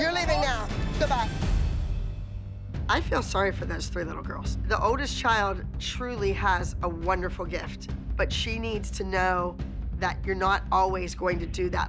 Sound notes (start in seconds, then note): none